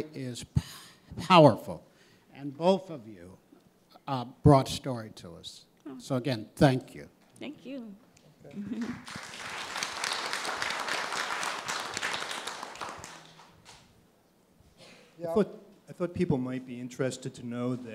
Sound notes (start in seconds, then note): 8.6 applause